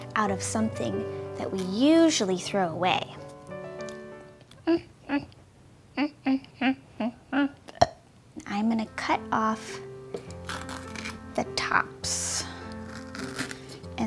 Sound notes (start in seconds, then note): 4.6 humming; 7.3 burps